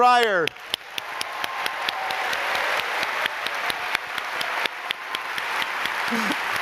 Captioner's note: applauding